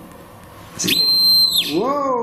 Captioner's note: metre beeping